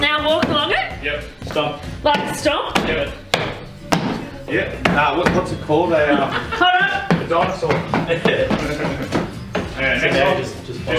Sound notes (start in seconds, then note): 3.2 stomping; 4.8 stomping overwhelms conversation